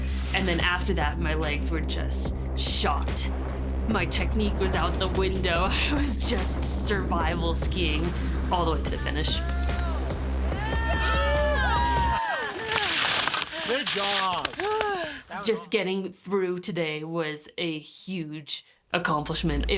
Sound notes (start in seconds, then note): 10.5 cheering